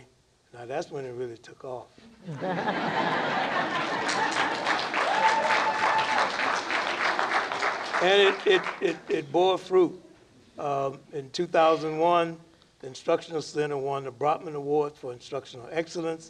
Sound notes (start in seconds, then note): 5.7 laughter; 6.8 applause